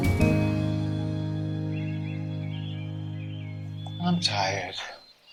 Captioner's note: sound of birdsong